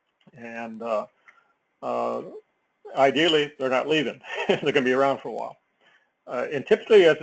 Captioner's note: laugh